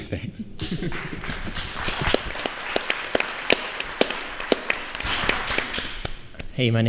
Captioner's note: applause